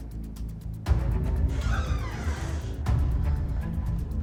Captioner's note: door creaks